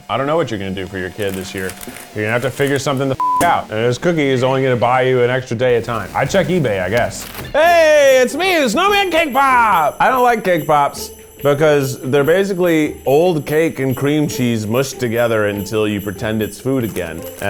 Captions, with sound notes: I don't know what you're going to do for your kid this year. You're gonna have to figure something the (beep) out and this cookie is only going to buy you an extra day of time. I'd check eBay, I guess. Hey, it's me, the snowman cake pop. I don't like cake bops because they're basically old cake and cream cheese mushed together until you pretend it's food again